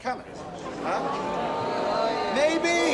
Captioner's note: booing